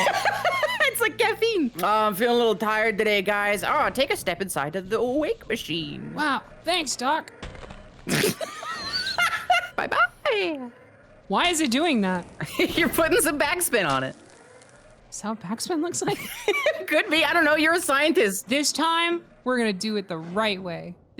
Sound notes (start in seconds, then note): 0.0 laughs; 7.5 body thuds; 8.0 laughs; 12.4 laughs; 16.0 laughs